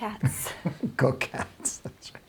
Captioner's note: laughs